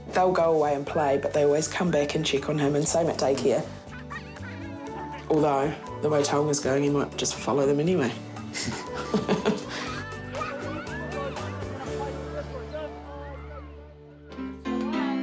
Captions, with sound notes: They'll go away and play, but they always come back and check on him, and same at daycare. Although the way Taonga's going, he might just follow them anyway. - (BOTH CHUCKLE)